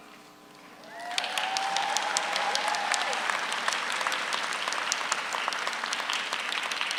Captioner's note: audience applauds; audience cheers